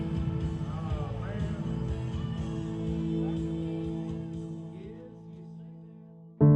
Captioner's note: speaking faintly